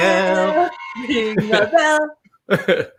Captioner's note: singing Ring by bell